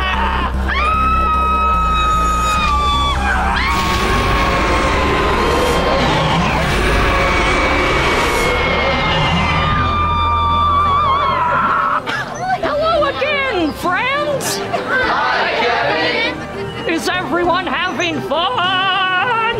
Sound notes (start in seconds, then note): 0.6 screaming; 10.0 screeching